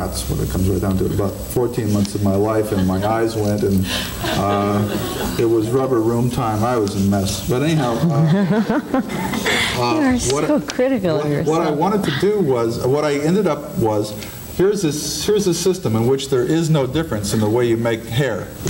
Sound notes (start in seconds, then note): 7.7 laughing